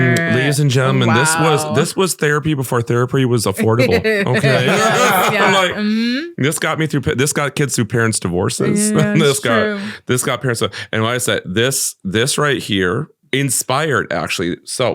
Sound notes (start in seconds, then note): 4.2 all laughing; 9.8 stammering